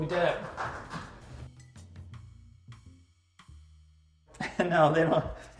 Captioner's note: camera crew clapping